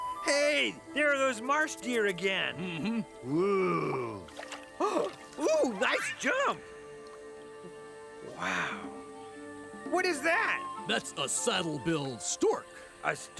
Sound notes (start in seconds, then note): 2.5 Jake humming affirmatively; 2.6 gasps